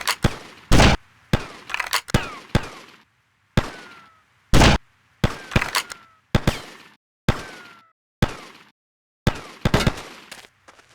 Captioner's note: gun fires